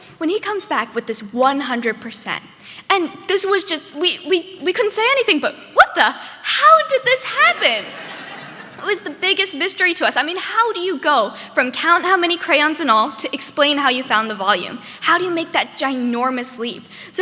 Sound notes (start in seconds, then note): 7.4 audience laughing